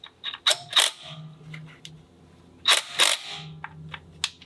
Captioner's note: torque gun rattles